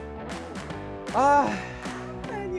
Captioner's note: deep Sigh